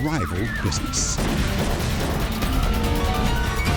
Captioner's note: gunshots